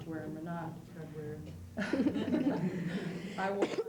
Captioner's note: laughter